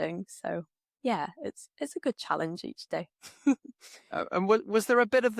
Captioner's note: laughs